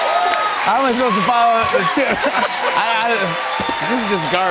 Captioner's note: laughter